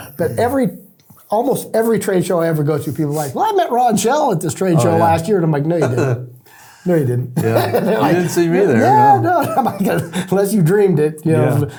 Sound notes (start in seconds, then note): 7.4 laughing